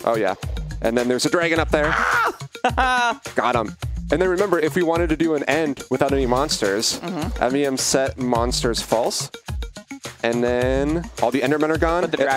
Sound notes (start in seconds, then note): 1.8 laughs